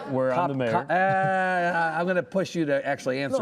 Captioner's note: laughing